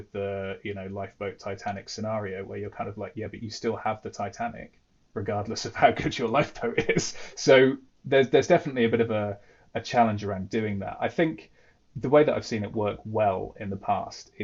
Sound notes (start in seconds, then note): 6.5 laughs